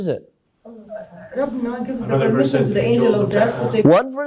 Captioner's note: audience talking